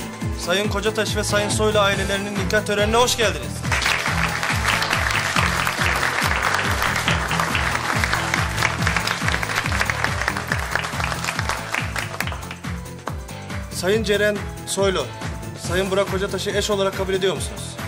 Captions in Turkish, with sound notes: ...Sayın Kocataş ve Sayın Soylu ailelerinin nikah törenine hoş geldiniz. (Alkış sesi.) Sayın Ceren Soylu, Sayın Burak Kocataş'ı eş olarak kabul ediyor musunuz?